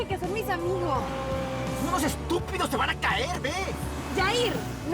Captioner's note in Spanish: Ruido de las motos